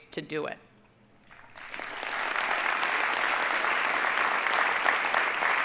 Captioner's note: audience applauding